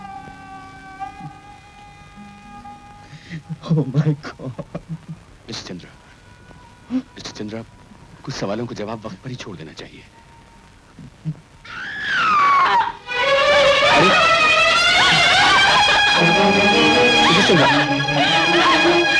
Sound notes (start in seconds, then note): 4.6 crying; 11.6 screaming; 14.8 crying